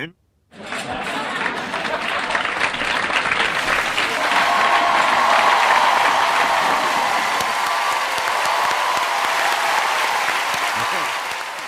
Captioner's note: awkward laughing and cheering